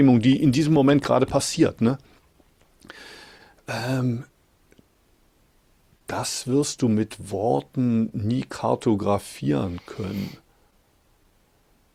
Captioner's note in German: schnauben